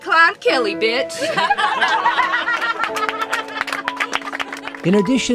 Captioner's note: laughter